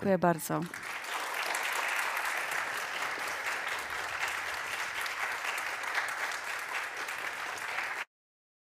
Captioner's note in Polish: oklaski